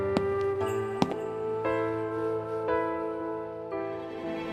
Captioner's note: sound of footsteps